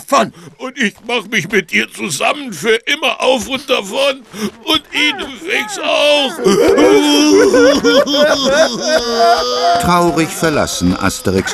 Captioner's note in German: gelächter